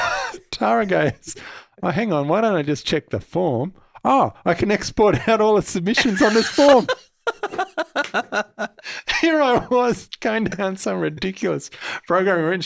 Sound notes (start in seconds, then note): 5.9 laughing